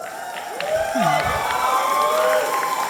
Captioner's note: applause and cheers